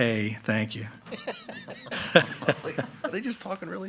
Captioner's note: all laughing